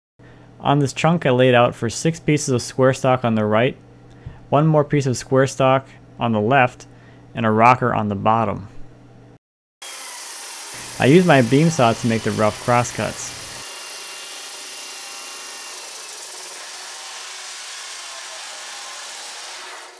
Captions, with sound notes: On this chunk, I laid out for six pieces of square stock on the right, one more piece of square stock on the left, and a rocker on the bottom. (saw buzzing) I used my beam saw to make the rough crosscuts. (saw buzzing)